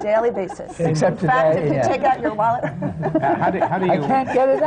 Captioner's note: laughter